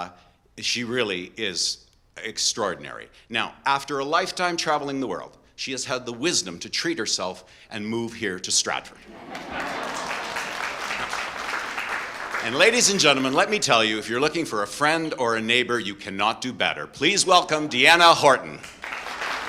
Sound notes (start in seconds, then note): 9.0 audience laughing and applause; 18.6 audience applause